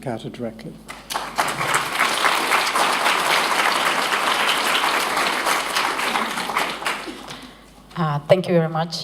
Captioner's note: applause